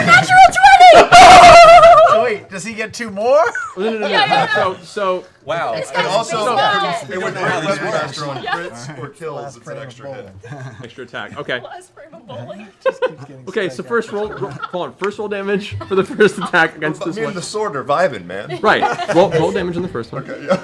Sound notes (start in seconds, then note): 13.8 laughs